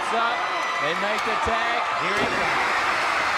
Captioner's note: crowd cheering